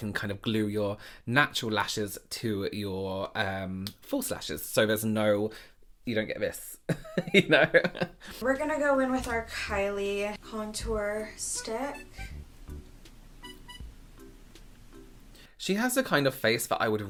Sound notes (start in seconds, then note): 7.0 laughing; 12.5 whimsical acoustic music